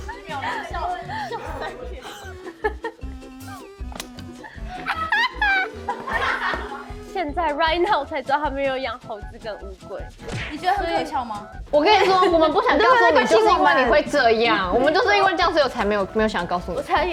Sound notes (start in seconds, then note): 0.0 laughing uncontrollably; 4.3 laughing out of focus